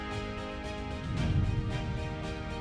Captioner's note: gentle music continues; transition whooshing; gentle music continues